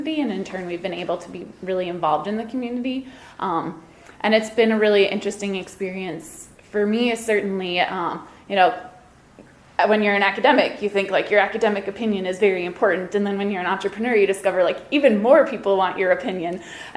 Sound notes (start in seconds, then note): none